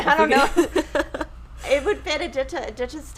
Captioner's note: chuckles